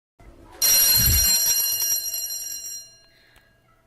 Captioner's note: school bell rings